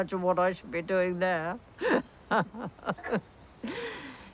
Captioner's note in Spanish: risas